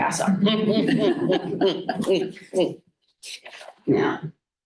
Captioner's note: laughter